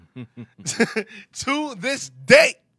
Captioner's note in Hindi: हस रहा